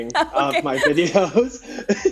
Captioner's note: laughs; laughing